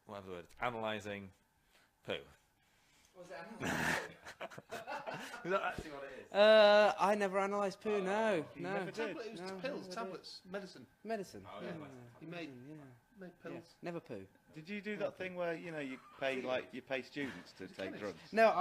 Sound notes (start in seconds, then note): 3.6 laughs